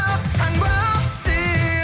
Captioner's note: speaking in foreign language